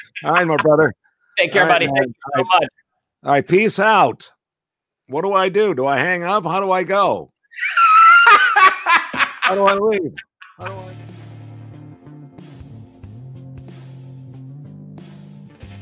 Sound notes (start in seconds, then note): 7.6 laughing; 10.4 soft rock music